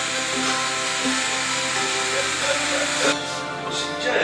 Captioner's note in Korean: 딸바보 웃음